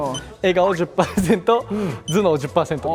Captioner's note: hahaha